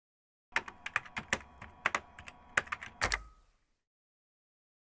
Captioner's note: keyboard typing sounds